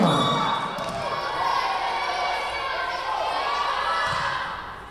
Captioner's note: whistle blowing